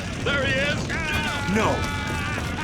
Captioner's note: yelling